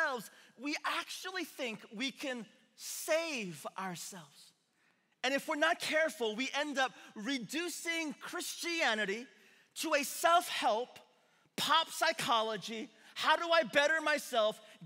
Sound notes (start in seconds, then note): none